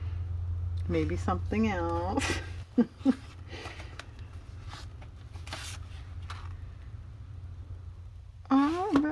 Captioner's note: laughs